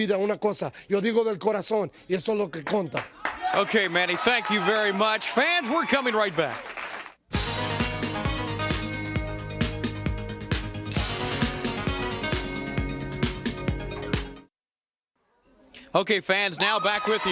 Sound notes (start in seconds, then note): 7.2 speaking in foreign language